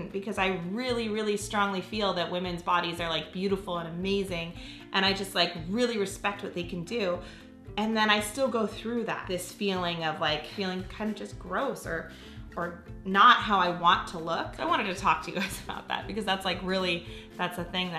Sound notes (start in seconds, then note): none